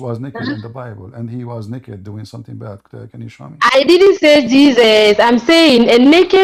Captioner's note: Ketawa